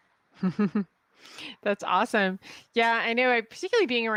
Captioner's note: laughs